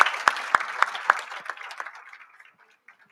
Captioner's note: audience applauds